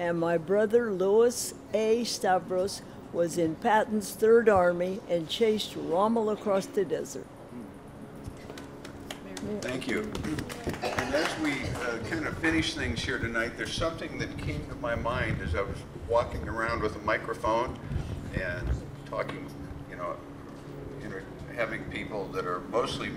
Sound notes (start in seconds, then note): 8.5 applause